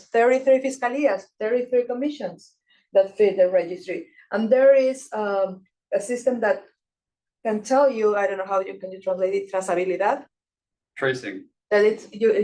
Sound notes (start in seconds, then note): 9.6 speaking Spanish